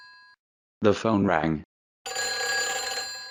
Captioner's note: the phone rang